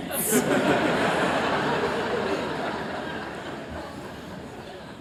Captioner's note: laughter